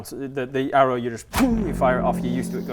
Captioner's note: pting!